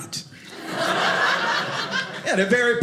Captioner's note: audience laughing